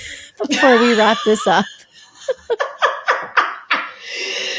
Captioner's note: both laughing